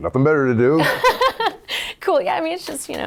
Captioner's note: laughing